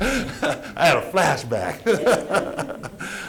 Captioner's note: laughter